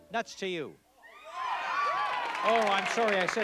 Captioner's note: applause